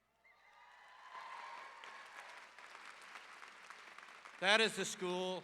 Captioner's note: audience applause